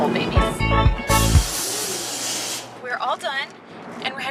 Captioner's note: can spraying